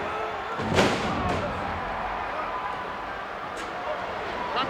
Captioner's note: ground slamming